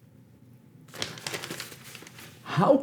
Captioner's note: newspaper handling